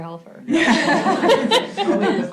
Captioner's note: laughter